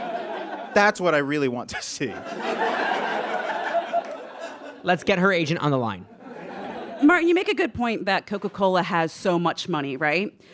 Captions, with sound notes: That's what I really want (cracks up) to see. (audience laughs heartily) Let's get her agent on the line. Martin, you make a good point that Coca-Cola has so much money, right?